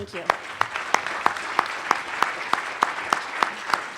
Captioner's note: applause